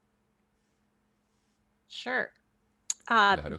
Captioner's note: hablando inglés